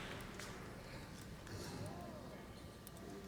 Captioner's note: none